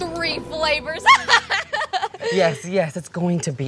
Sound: evil laugh

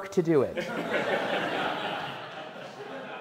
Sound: laughs

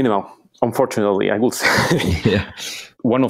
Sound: laughs

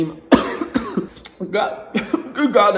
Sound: coughing

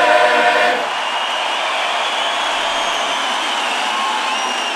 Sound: crowd cheering

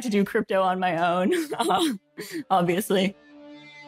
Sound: laughs

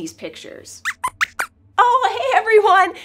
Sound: squeaks squeaks

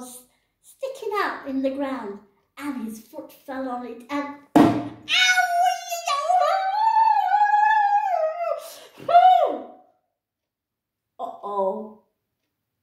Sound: bang

